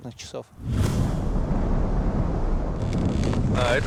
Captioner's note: wind blowing